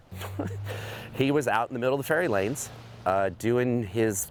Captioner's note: chuckles